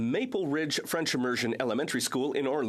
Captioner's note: speaking French